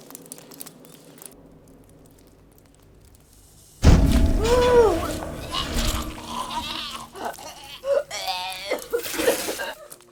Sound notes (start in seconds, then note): 5.4 Alice vomiting